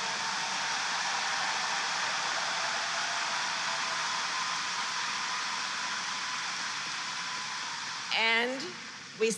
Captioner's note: applause